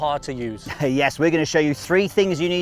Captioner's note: chuckles